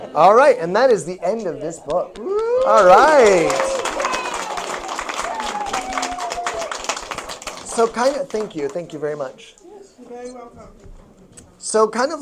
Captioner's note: applause